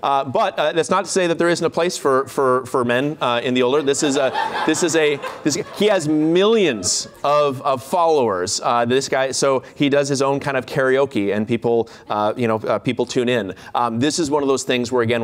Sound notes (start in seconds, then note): 3.7 laughter